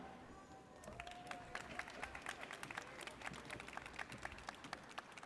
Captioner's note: audience applauds